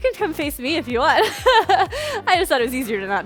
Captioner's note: laughing